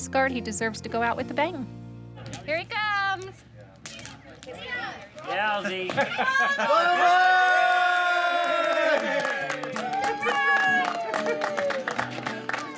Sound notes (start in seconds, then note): 6.0 crowd shouts and claps